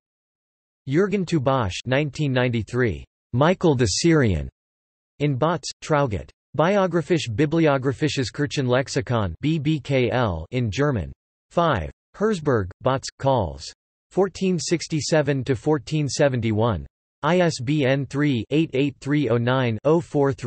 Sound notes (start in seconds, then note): 13.0 in German